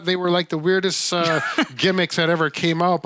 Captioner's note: laughing